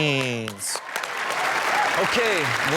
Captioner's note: crowd cheers